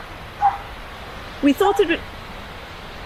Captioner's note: dog barks